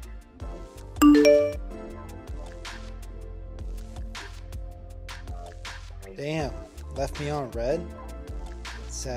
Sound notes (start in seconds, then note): 1.0 message dings